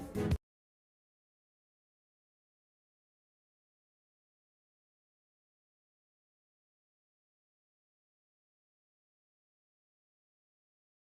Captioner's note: music stops - silence